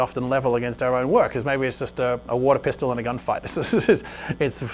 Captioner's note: laughs